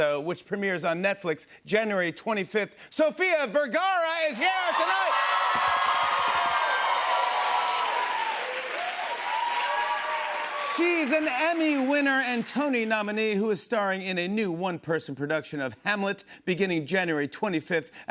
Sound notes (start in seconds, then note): 4.2 cheers and applause